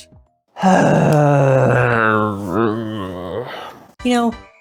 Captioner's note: groans